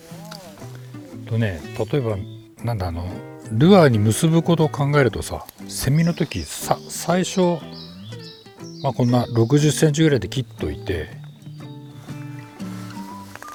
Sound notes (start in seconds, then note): 5.4 cicada